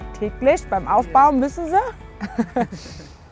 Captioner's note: laughing